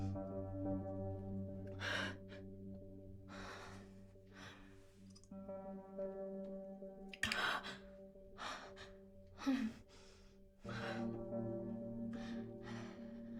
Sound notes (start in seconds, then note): 6.9 catching breaths